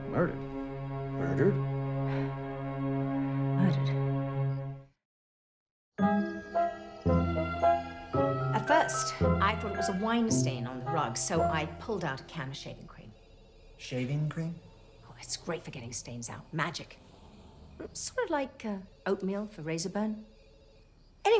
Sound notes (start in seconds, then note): 2.2 Prudence sighs; 6.1 calm music